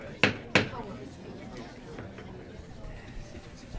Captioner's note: gavel pounding